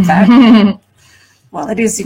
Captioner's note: laughs